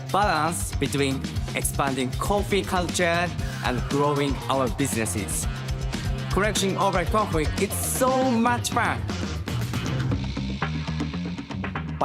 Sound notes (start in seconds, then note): none